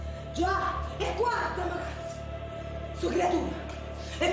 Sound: speaking in Italian

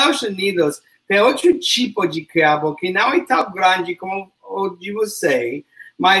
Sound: speaks portuguese

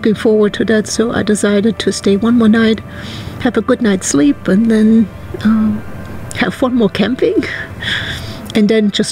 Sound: laughs

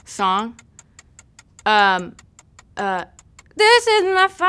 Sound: clock ticking

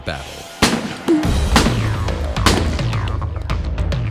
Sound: gunshots; rapid gunfire

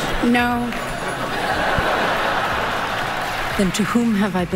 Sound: laughter

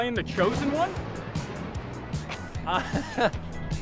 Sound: thunder crashes

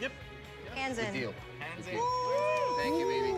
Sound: cheering

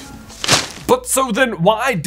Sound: newspaper smacks

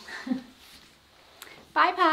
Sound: laughing

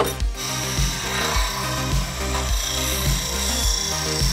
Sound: machine buzzing; upbeat instrumental music

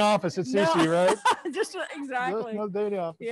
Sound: laughs

